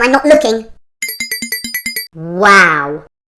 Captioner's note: tinkling